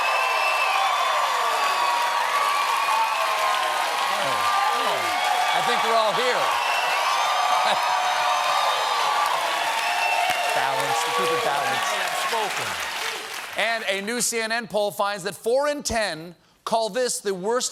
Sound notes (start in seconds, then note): 0.0 cheers and applause